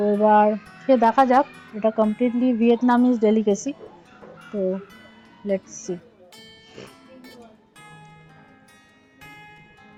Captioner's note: sniff